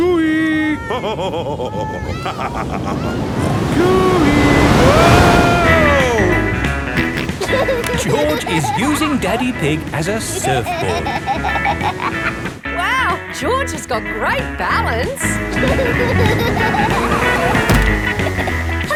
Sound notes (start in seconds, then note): 0.7 laughs; 6.8 snorts and laughs; 15.2 laughing